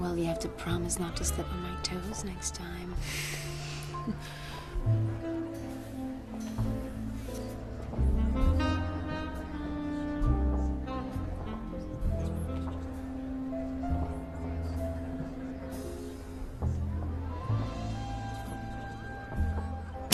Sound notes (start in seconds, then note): 15.8 people chattering softly